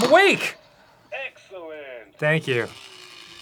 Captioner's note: clock; clock whirrs and resets